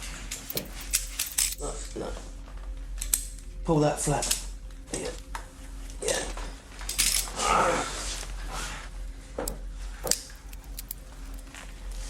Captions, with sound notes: - That's good. Pull that flat, yeah, yeah. (grunting)